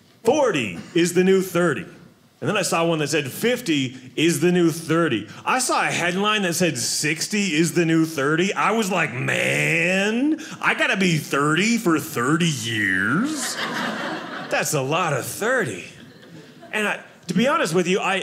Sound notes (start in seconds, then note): 13.2 audience laughing